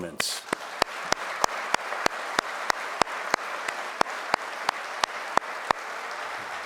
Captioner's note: and audience applauding